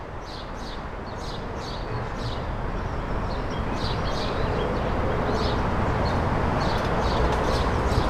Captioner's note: birds chirping